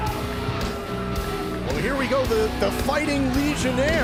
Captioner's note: crowd cheering